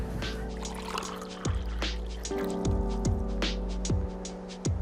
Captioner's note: coffee pours; gentle music